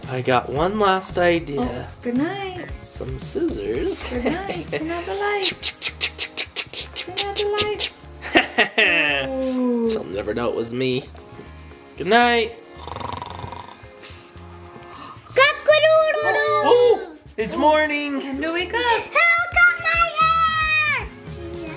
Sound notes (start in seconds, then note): 5.4 dad imitating cutting noises; 12.7 dad snoring